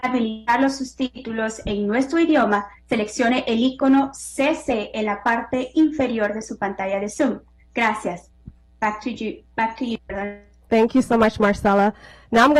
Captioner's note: spanish